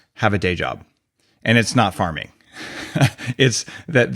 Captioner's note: laughs